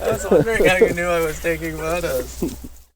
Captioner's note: laughing